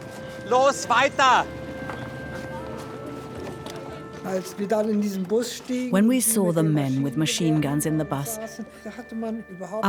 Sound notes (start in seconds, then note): 4.2 speaks in foreign language